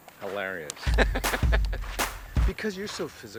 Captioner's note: Sean laughs